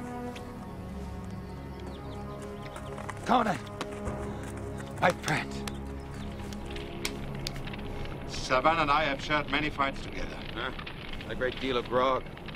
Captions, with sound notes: - Conan. My friend. (fire crackling) (crickets chirping) - Savann and I have shared many fights together.